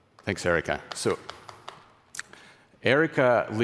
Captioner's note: applause